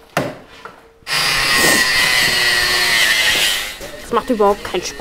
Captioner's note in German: Maschinenlärm